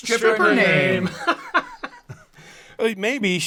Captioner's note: laughs